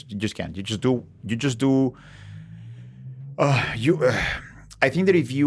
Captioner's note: sighs